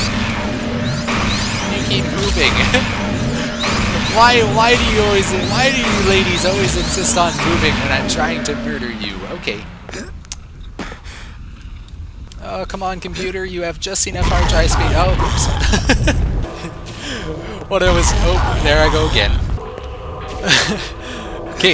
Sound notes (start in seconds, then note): 2.2 laughs; 14.4 laughs